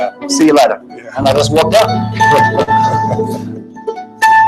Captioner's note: both laughing; gentle guitar music